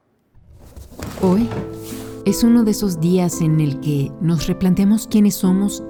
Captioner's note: speaking in a foreign language